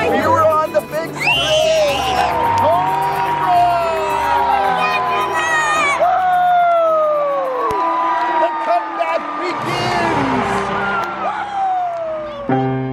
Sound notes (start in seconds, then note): 1.4 yelling; 12.0 piano playing